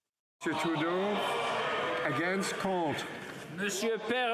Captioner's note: speaking French